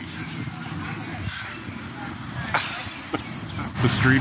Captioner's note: chuckling